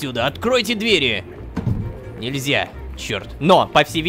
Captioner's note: thudding sound